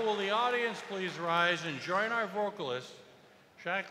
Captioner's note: cheers and applause